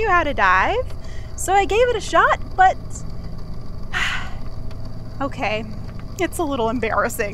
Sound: sighs

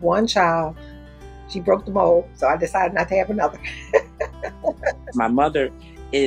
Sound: laughs

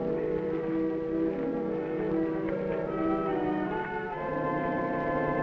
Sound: none

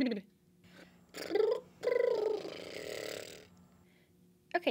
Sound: lip trilling high and low tones; lip trilling with no tones

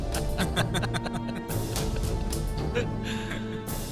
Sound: Bishop Laughs

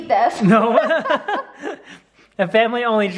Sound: laughing

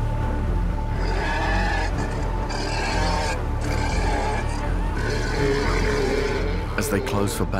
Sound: roars

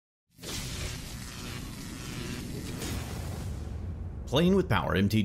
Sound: electricity crackling

